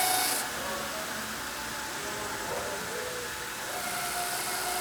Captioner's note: CNC machine whirring